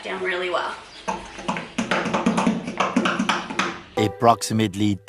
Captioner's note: construction sounds